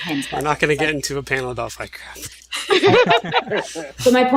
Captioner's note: laughs